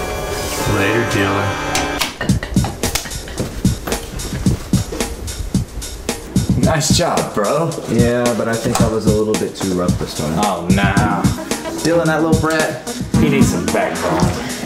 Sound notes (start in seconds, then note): 1.8 upbeat music; 2.2 both chuckle